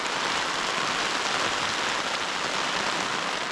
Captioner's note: rain sound